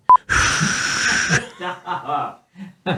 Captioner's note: loud exhaling; laughing